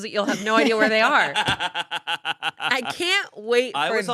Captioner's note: laughs